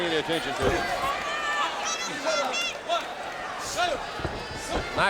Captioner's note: audience cheering